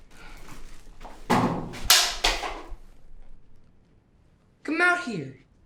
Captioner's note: loud clattering; loud thud